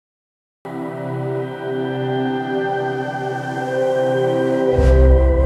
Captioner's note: speaking in foreign language